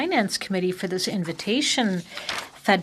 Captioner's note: speaking French